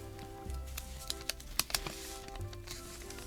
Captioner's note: tape pulling and ripping; sticky noises